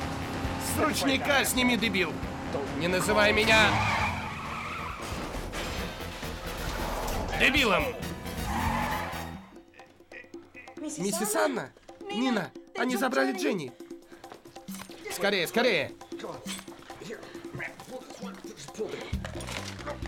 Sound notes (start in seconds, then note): 4.6 tires screeching; 8.5 tires screech; 10.1 grunts; 16.8 grunting